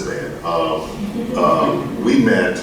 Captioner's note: audience laughs